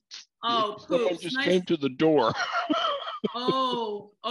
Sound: laughter

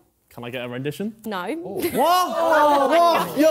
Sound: laughing

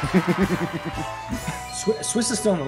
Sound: laugh

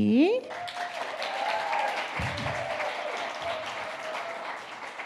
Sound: audience cheering

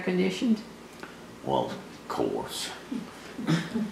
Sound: laughter

